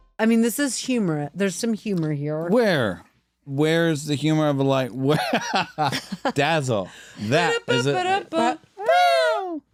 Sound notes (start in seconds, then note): 5.1 laughter